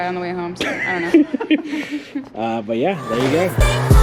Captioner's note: laugh; upbeat music